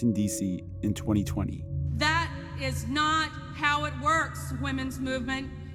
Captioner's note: soundbite of archived recording